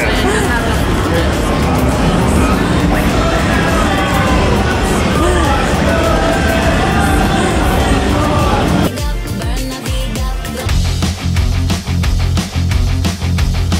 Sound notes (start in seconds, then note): 3.2 loud arcade ambience noise; 10.7 upbeat rock music